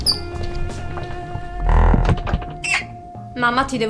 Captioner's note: sound of door creaking